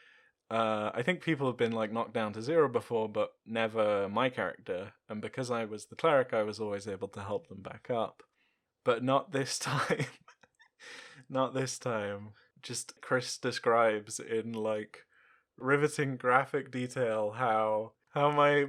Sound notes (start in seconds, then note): 9.5 laughs